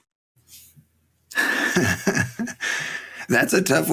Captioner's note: laughing